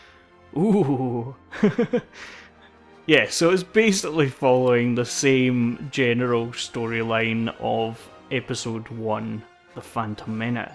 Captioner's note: laughs